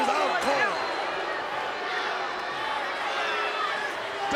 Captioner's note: crowd yelling